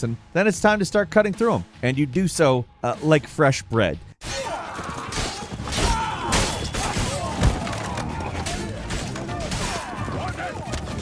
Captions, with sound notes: and then it's time to start cutting through 'em, and you do so like fresh bread. (players groans) (swords slashes)